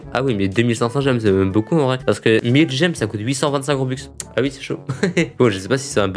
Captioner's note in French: rigole